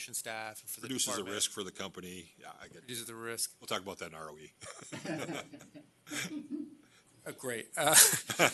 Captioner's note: laughter